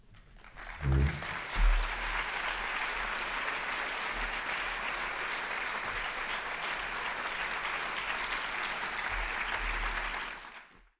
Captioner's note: applause